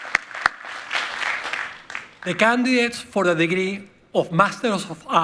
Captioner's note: applause